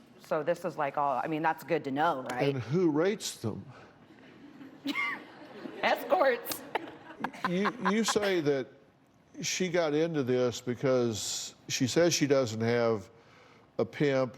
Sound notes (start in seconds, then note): 6.5 laughs